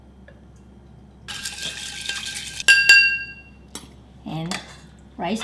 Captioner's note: spoon stirring